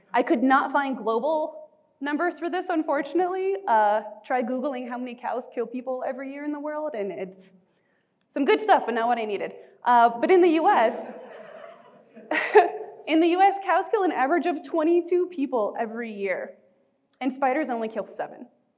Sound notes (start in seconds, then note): 11.0 audience laughing; 11.0 chuckling